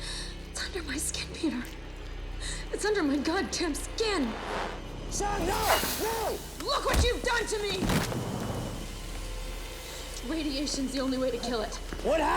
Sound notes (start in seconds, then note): 6.8 body thuds